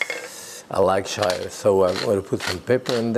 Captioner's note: grinder grinding